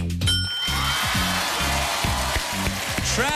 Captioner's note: cheers and applause